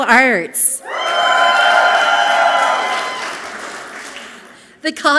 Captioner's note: audience clapping and cheering loudly